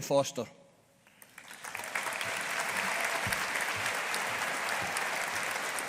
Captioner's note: audience applauding